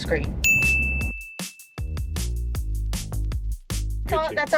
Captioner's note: chime rings